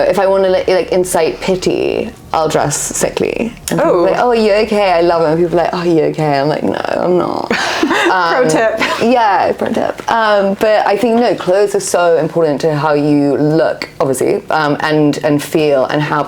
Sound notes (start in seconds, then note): 7.4 laughs